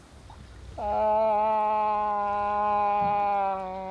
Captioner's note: mimicking moose call